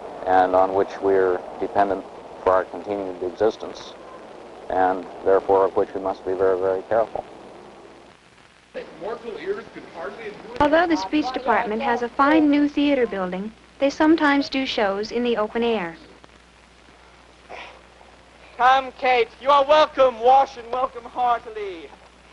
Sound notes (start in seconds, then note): 8.7 indistinct chatter